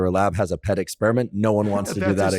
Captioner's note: laughs